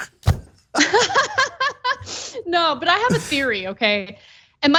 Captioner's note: laugh